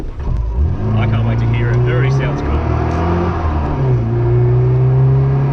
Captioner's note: engine accelerates